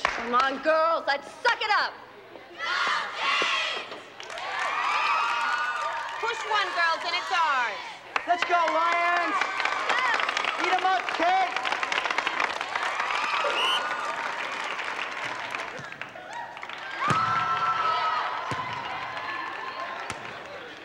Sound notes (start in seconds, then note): 4.2 clapping; 11.5 applause; 13.4 whistle blows; 16.9 cheering